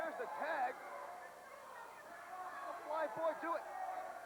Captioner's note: crowd chatter